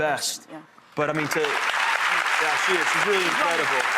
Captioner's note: audience applauding